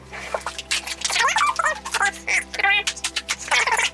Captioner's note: squeaky voice sped up to incomprehensible